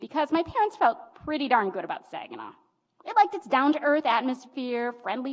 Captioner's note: none